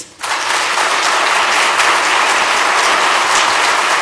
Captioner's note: applause